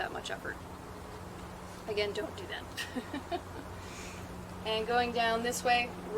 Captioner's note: laughs